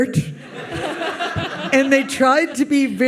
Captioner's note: audience laughs